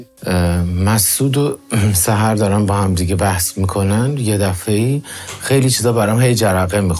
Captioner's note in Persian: گلویش را صاف می‌کند